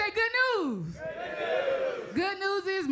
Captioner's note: crowd